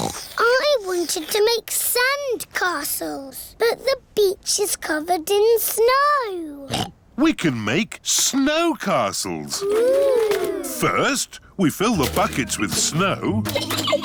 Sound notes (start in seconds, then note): 0.0 oinks; 0.0 slurping; 6.7 oinks; 13.4 giggling